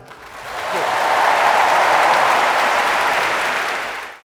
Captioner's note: audience applauding